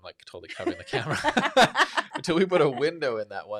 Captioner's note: both laughing